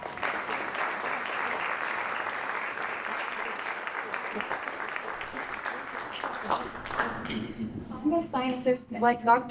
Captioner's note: applause